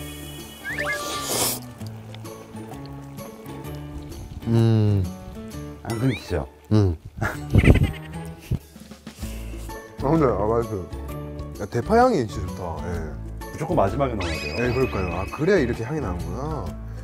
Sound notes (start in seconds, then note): 0.7 going on to noodle slurping